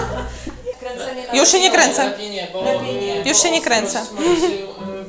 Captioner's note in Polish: śmiech w tle; głosy w tle